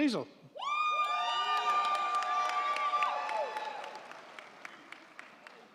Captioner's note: crowd cheering; crowd clapping